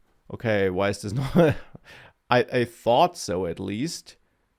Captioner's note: laughs